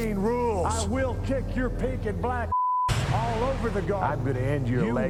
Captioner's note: beep